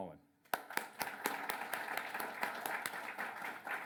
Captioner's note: applause